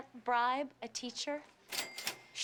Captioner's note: cash register ringing